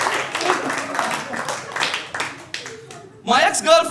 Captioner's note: audience clapping